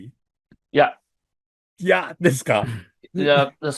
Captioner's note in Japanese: 咳払い